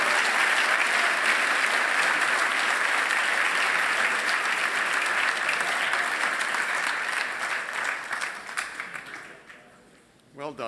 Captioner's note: applause